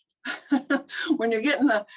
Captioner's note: laughs